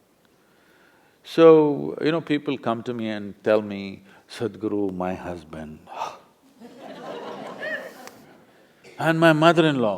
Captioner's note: laughter